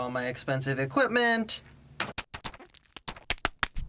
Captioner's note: milk in a bag sounds